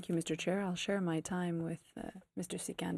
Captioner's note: speaking FRENCH